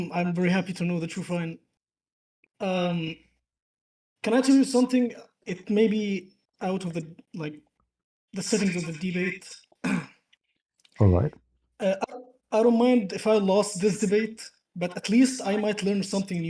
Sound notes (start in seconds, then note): 9.8 clears throat